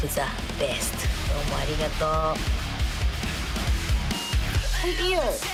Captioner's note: speaking in foreign language